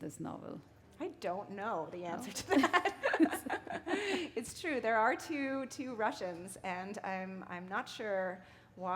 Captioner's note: chuckle